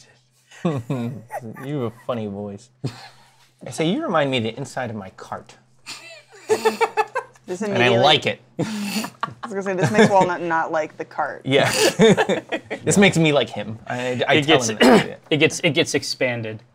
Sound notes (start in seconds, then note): 0.6 laughs; 5.9 laughs; 9.7 laughter; 11.6 laughs